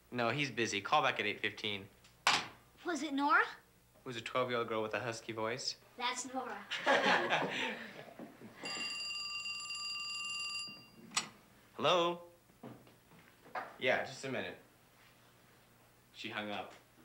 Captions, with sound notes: No, he's busy, call back at 8:15. - Was it Nora? - It was a 12-year-old girl with a husky voice. - That's Nora. (all chuckle) (phone rings) - Hello, yeah, just a minute, she hung up.